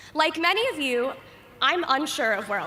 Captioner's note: none